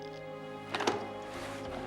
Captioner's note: clicks